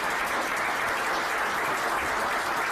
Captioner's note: applause